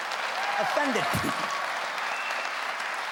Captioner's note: clapping